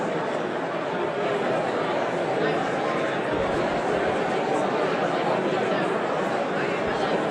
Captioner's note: audience continues indistinctly chattering